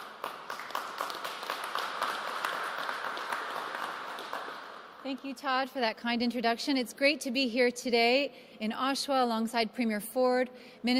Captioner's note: applause